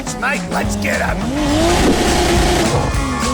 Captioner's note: errrrrrRRR tssss errrrrrrrrRRRRRR tssss errrrrrrrrrrrRRRRRRRRRRRRR